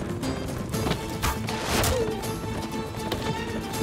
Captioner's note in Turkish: Ok fırlatma sesi